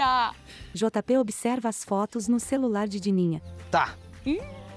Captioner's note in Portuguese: Pássaros